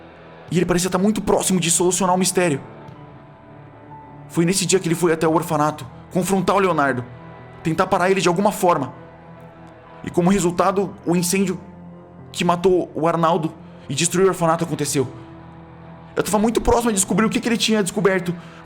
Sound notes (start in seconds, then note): none